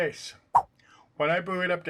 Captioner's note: swipe sound